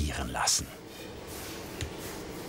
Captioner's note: quiet buzzing